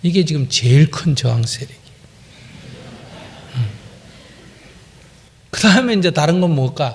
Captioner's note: audience Laughter